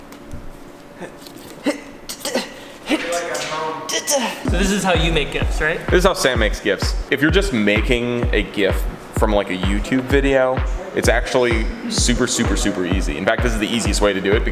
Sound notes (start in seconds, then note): 1.6 makes struggling sounds